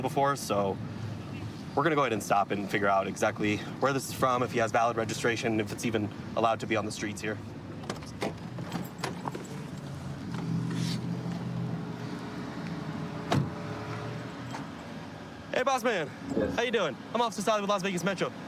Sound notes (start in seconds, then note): 9.5 distant traffic hum